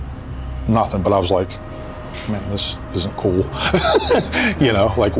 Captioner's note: laughs